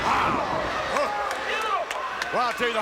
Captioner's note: someone claps